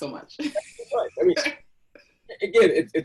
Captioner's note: laughs